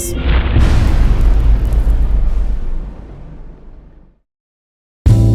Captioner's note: impact